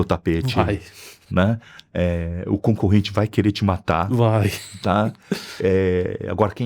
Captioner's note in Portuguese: risadas